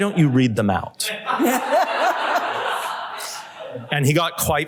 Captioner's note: laughter